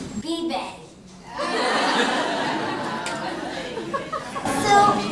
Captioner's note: laughter